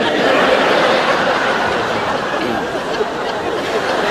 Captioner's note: audience laughs